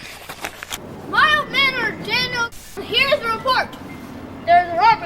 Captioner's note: static